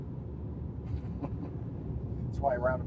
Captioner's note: chuckles